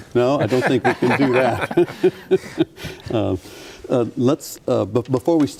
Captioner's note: laughing